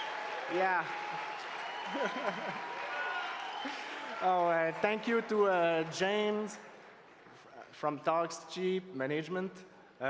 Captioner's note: cheering and Applause